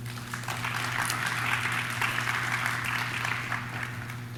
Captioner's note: audience claps